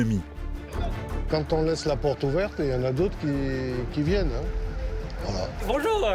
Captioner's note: man speaking foreign language